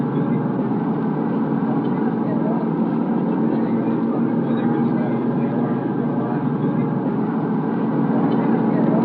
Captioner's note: background chatter